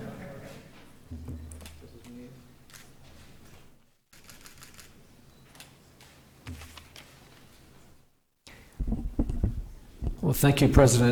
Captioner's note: laughter